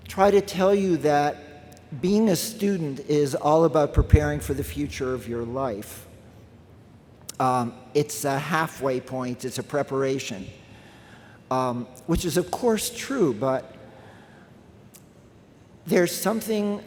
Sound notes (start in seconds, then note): none